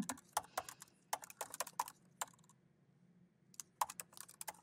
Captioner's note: keyboard clacking